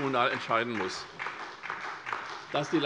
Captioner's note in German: Beifall SPD